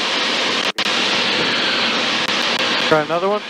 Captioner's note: radio static